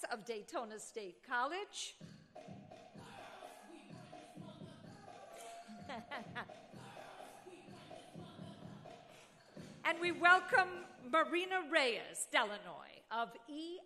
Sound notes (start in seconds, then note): 2.9 upbeat music; 5.4 chuckling